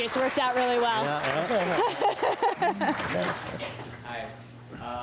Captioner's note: applause and Laughter